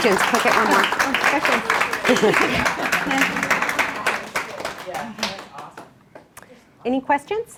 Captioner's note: clapping